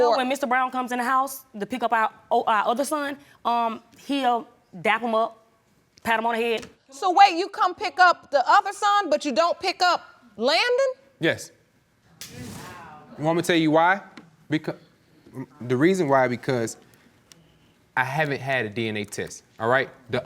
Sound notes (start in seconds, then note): 12.4 audience exclaims